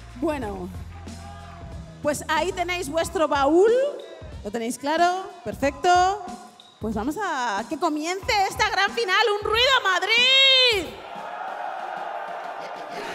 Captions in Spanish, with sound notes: Bueno, pues ahí tenéis vuestro baúl. Lo tenéis claro, perfecto. Pues vamos a que comience esta gran final. ¡Un ruido, Madrid! (Vítores)